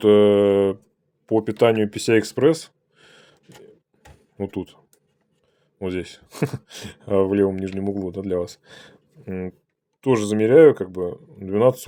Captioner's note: laughter\